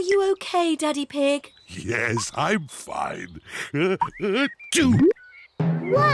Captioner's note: sneezes